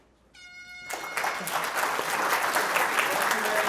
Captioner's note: audience clapping